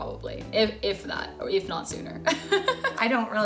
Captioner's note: laughs